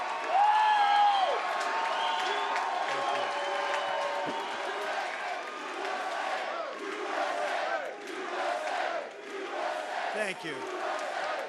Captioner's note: cheering